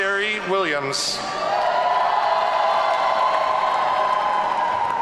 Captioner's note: audience cheering